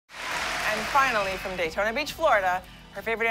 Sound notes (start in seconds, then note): 0.1 applause